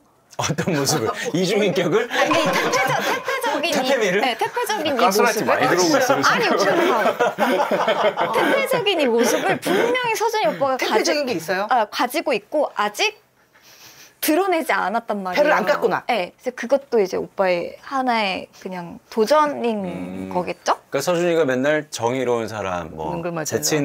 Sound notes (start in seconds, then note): 9.3 laughing